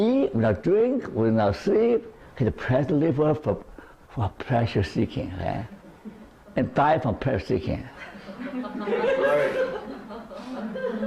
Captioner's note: laughter